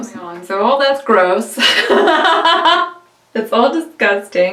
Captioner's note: laughs